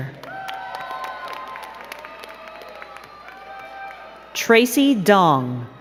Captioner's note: crowd cheering and clapping